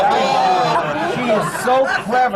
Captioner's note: laughter